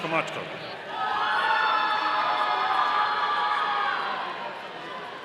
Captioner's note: audience cheering